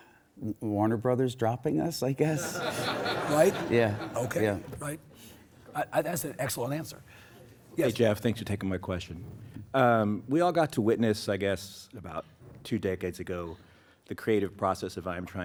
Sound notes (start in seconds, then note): 2.3 audience laughs